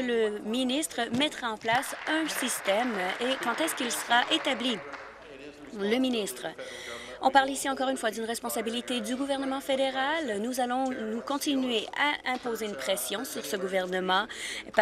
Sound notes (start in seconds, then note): 5.6 applause